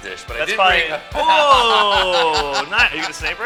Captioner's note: surprised laughter